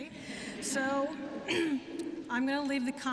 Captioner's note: laughter